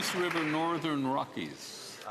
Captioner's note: applause